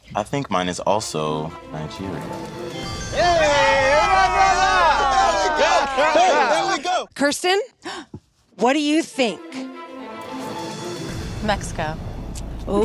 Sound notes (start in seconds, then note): 2.8 group cheers; 2.8 twinkling; 9.0 dramatic music